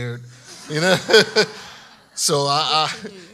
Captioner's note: laughing